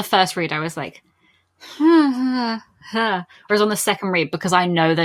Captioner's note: uncomfortable mummuring